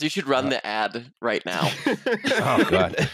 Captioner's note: laughter